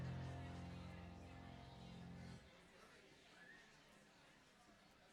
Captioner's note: people talking